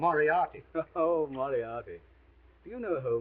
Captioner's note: chuckles